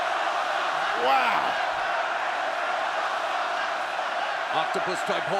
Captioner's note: crowd cheers fighters